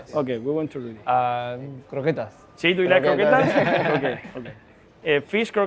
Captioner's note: laughs